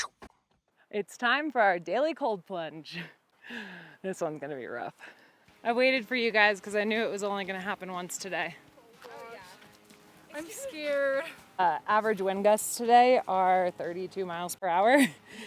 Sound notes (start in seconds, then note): 3.2 laughs; 14.9 laughs